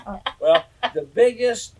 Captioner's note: laughter